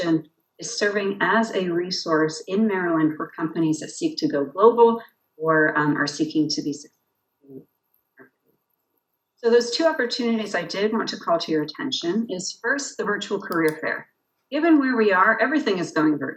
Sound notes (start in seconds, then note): 6.6 audio cuts out